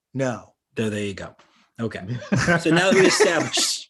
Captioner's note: all laugh